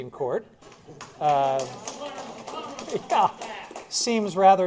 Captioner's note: applause